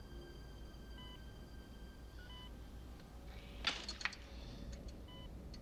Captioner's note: beeping